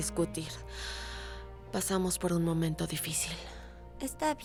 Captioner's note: Suspiro